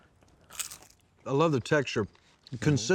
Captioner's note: crunching sound